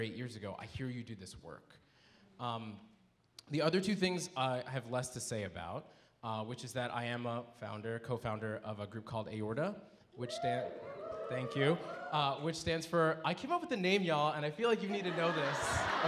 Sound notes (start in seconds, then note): 10.2 audience cheering